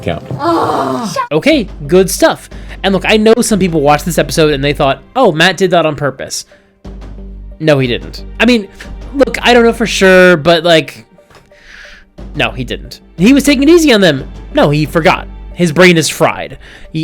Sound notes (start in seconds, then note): none